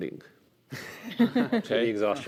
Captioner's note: chuckling